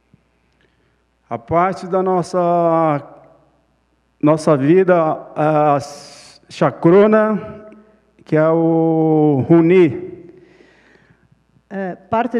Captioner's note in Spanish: Ponente habla en portugués